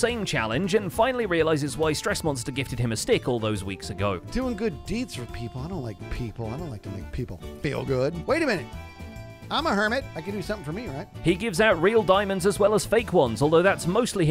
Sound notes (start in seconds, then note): none